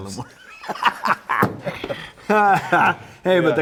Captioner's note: laughing